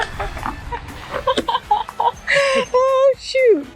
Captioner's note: laughing